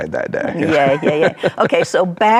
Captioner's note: laughs